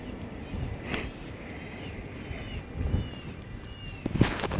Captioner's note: animal calls